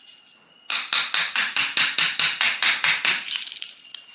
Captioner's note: hammer tapping again